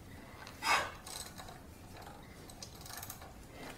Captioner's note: puff of air; ratcheting noise